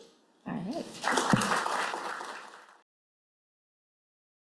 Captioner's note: applause